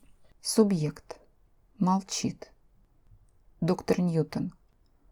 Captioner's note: no answer